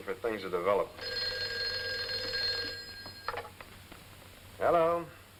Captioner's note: phone rings